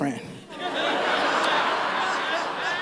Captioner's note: laughter